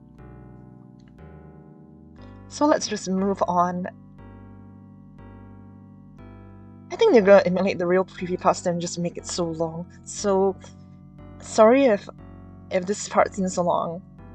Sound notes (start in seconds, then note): none